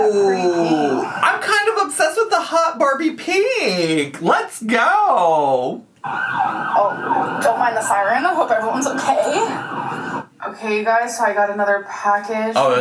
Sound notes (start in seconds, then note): 6.0 sirens blare